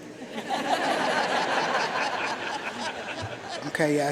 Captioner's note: audience laughing